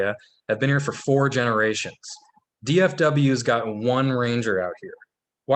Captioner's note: none